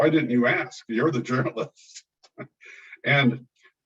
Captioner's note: chuckles